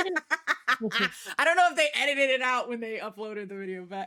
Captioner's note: both laughing